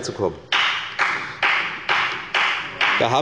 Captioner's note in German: Beifall bei der FDP